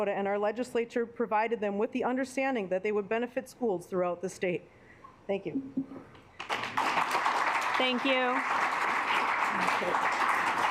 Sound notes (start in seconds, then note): 6.1 assembly clapping